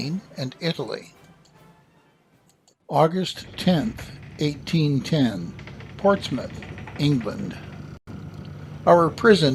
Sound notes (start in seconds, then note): 1.0 music fades; 6.9 creaking ship noises